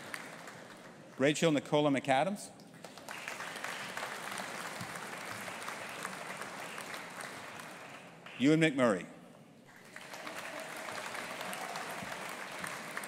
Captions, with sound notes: Rachel Nicola McAdams. (AUDIENCE APPLAUDING) Ewan McMurray. (AUDIENCE APPLAUDING)